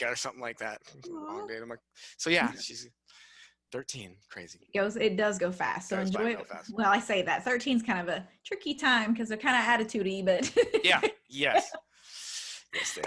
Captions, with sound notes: or something like that. So yeah, she's 13, crazy. - It does go fast, so enjoy it. - It does go by fast. - Well I say that, 13's kind of a tricky time because they're kind of attitude-y, but. (laughs) - Yeah, yes, yes they are.